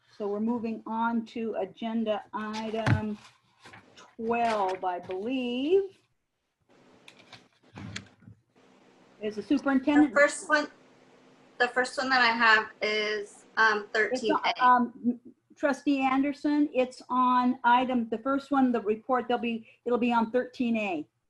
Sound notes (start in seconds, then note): 7.0 paper rustling